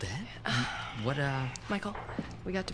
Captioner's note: Jan sighs